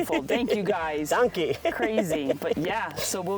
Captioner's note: laughs